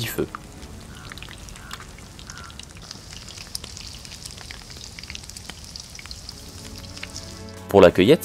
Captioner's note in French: Crépitements du feu et de la viande